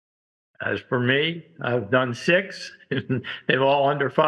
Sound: laughs

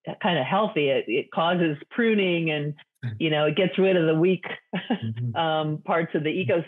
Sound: laughs

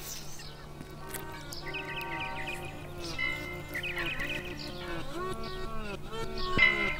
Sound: licking fingers

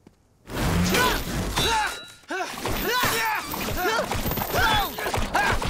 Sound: grunting

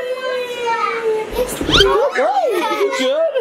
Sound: excited noises

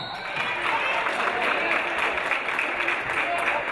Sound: referee blows whistle; audience applauding

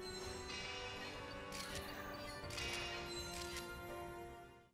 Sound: photo snapping

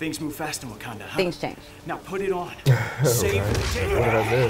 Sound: laughs

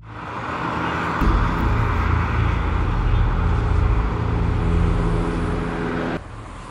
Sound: traffic

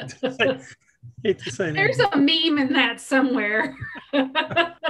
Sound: laughs; laughs

